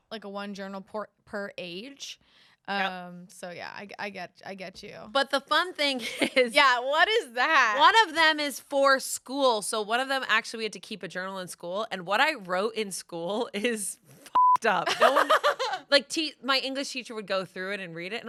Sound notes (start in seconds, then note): 14.3 beep; 14.8 laughs